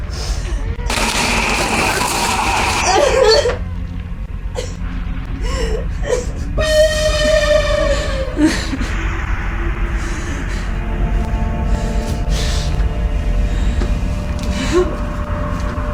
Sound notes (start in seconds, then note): 0.9 object whirring; 3.0 Sally grunting in pain; 6.7 ominous music; 10.3 Sally panting